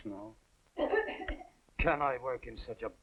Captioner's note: coughing